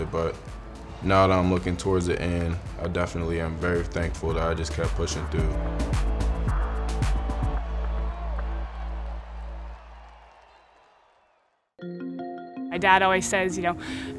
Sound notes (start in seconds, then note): 5.7 uplifting music; 6.5 fans cheering